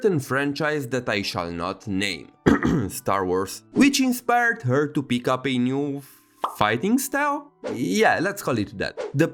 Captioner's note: cough